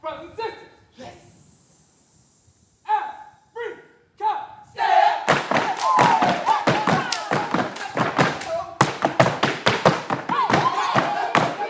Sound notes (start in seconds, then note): 4.6 all chanting